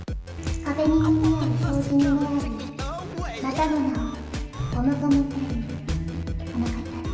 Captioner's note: japanese noises